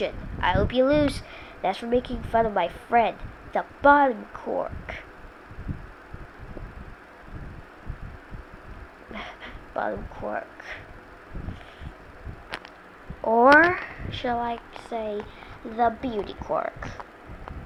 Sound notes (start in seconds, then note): 6.4 ruthless giggling